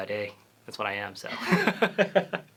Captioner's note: laughter